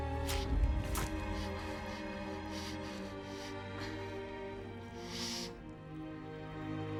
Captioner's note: breathes heavily; blood splatters